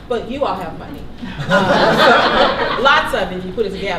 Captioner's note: laughter